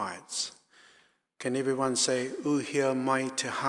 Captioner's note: speaking in foreign language